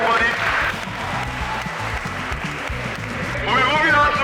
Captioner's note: applause